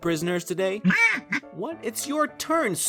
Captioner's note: goose sound